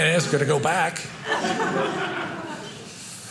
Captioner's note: audience laughing